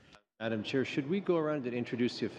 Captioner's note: speaking French